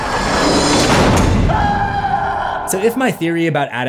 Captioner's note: slam